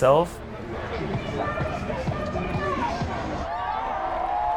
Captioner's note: protestors chanting